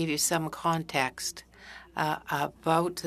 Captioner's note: speaking in French